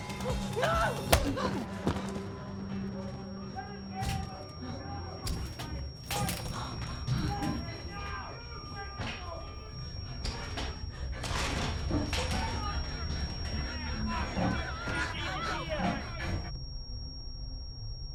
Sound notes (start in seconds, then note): 3.4 door breaking apart; 5.4 mob shouting